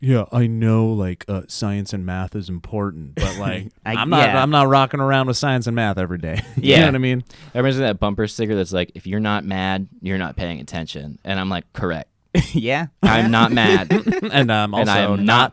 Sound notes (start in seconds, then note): 6.3 chuckles; 13.0 laugh; 13.0 chuckles